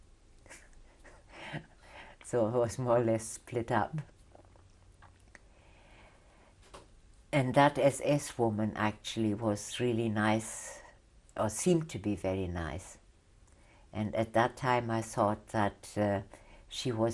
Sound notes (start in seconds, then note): 0.4 laughs; 4.0 pauses for 3 seconds